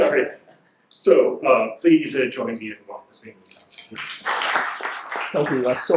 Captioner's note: audience applauds